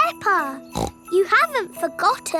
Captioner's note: snorts